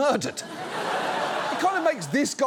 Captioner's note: audience laughs